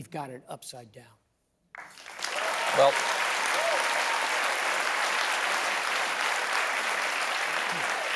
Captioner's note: applause